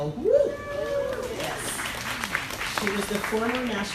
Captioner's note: crowd applauding